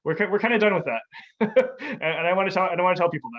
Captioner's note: laughs